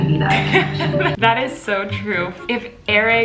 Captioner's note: laughs